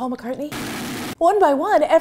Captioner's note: food processor growls electronically